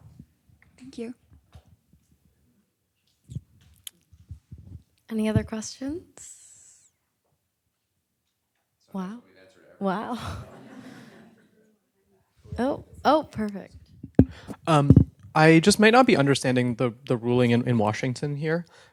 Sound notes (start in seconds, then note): 10.1 laughter